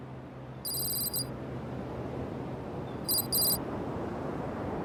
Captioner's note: text clicking